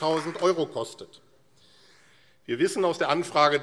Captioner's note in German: Beifall AfD